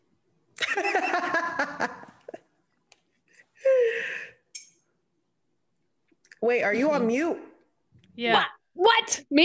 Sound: laugh

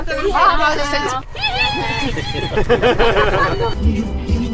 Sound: laughes

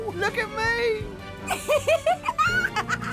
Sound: Oopsy giggles; Pootle laughs

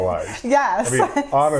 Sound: laughs

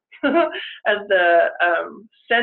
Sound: chuckles

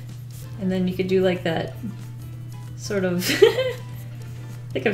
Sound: giggles

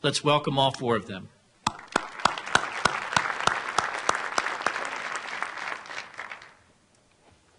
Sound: applause

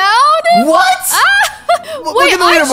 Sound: laughs

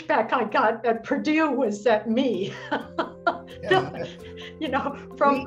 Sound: laughter

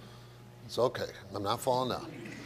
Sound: audience laughs

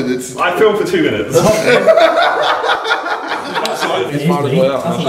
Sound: laughter

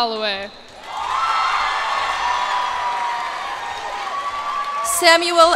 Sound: cheers and applause

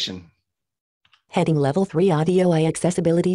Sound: automated Voice

